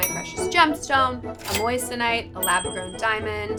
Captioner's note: cash register dings; bell dings